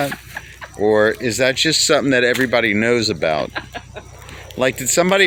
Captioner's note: laughing